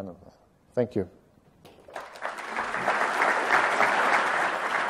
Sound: applause

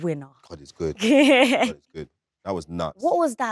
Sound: Letitia laughs

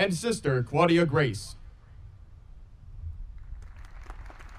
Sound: audience applauding

